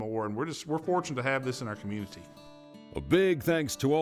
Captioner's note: voiceover